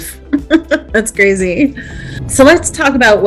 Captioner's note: chuckles